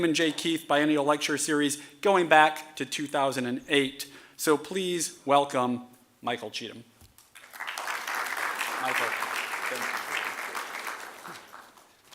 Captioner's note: applause